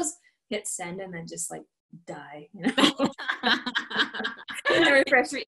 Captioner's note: laughter